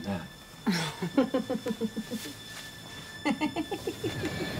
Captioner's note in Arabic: يضحك